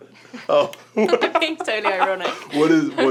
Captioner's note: laughs